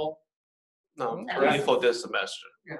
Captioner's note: chattering